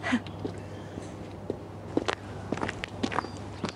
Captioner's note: <i> footsteps approaching</i>